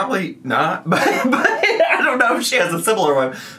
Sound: laughing

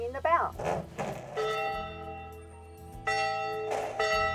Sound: bell gongs

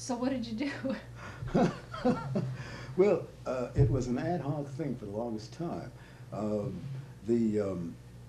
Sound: laughter

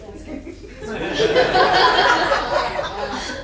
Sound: laughing

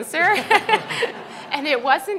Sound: everyone laughs

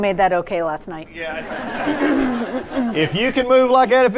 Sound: laughter

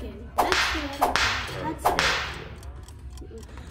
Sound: whip cracking

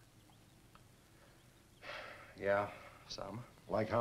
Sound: sighs

